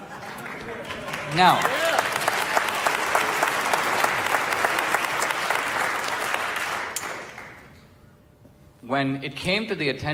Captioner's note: audience laughter and applause